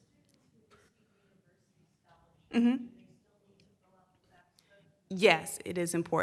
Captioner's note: woman murmurs in background